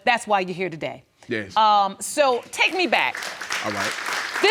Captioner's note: audience applauding